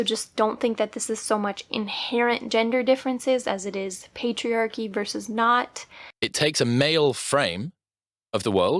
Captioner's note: podcast plays